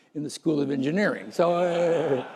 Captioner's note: laughter